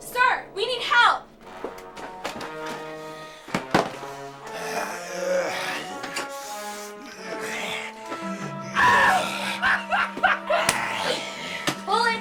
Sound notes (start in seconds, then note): 1.7 dramatic music; 4.5 zombie grumbling; 8.3 actor laughs maniacally